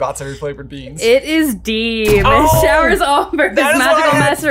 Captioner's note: laughs